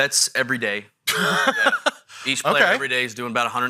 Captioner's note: laughing